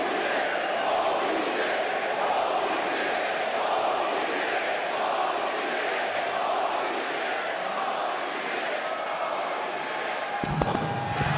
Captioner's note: applause